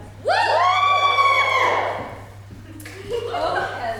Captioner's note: audience cheers